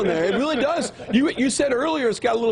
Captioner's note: laughing